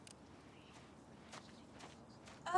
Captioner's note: footstep